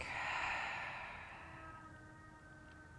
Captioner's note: exhaling